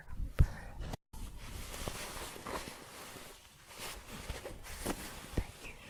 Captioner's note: shuffling and scratching